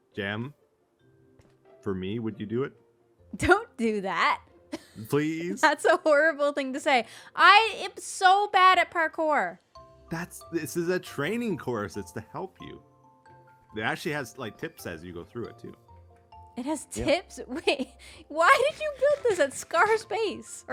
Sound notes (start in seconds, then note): 3.7 laughs